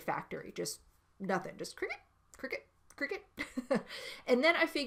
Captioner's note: chuckles